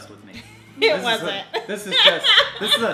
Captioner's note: laughs